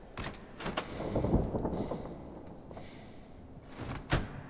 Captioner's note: door clicks